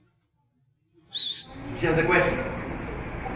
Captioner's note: whistling